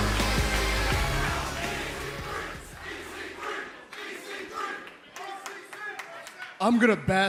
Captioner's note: crowd cheering